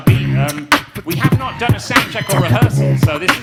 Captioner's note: beatboxing